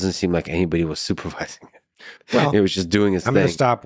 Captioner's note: laughing